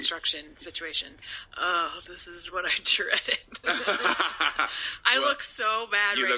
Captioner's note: laughter